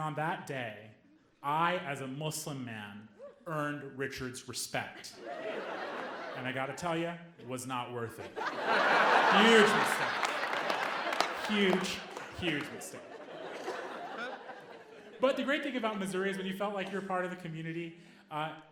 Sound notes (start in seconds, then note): 10.9 audience laughing